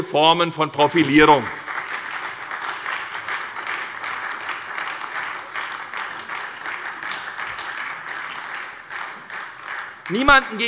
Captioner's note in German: Beifall bei der SPD und der LINKEN